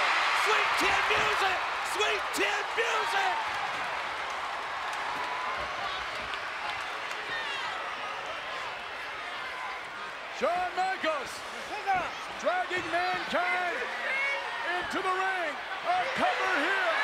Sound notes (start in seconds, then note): 5.7 applause